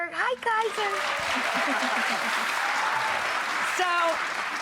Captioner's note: applause